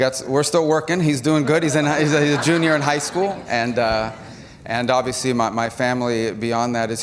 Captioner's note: laughter